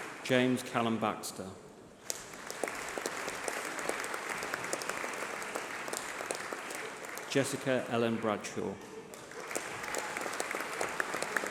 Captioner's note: applause